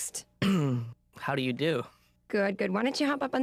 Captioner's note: clears throat